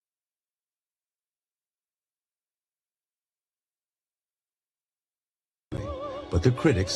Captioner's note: silence